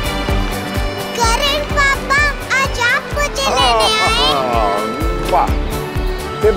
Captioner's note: Kisses